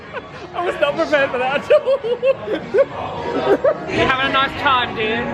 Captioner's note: laughs; laughs